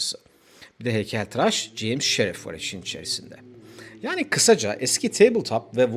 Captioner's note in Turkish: homurdanır